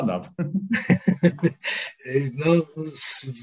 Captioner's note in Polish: śmiech